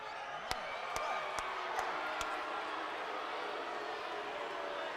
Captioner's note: attendee applauding